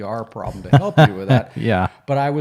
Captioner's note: cackles